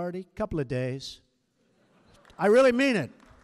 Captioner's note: laughter